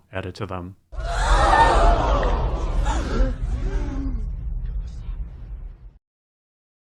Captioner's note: crowd gasping